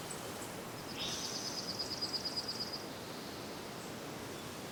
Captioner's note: birds chirp